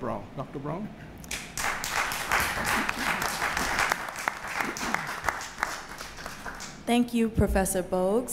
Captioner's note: applause